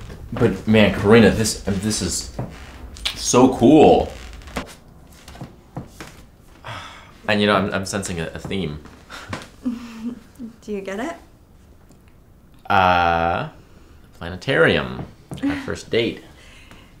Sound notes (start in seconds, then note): 9.6 chuckles